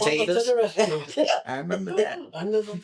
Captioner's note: laughter